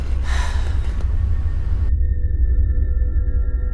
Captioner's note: woman sighs